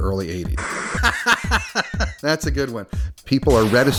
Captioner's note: laughing